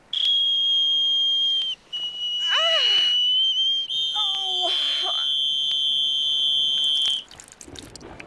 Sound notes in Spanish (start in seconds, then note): 0.0 silbato; 2.7 gimiendo